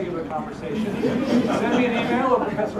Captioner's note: laugh